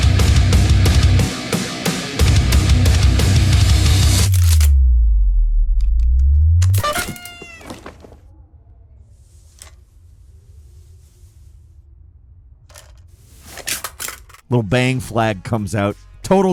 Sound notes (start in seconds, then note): 0.0 dramatic metal music; 4.3 gun cocking; 6.7 playful squeaking